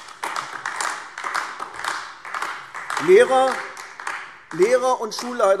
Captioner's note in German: Beifall AfD